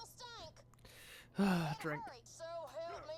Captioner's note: sigh